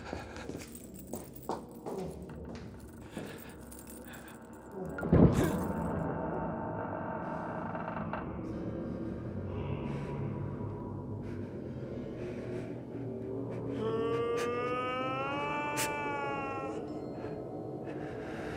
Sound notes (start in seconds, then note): 3.8 Fleques panting; 6.7 sound of door opening; 9.6 ominous music starts; 13.7 crying noise